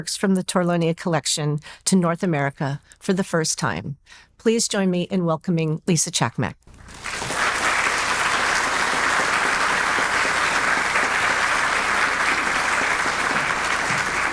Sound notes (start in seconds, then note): 6.7 audience applauding